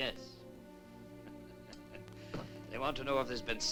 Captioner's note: chuckles